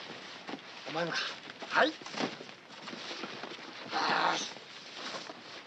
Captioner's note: speaking Japanese